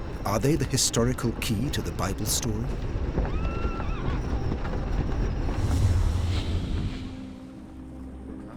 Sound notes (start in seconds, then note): 3.3 horse whinnies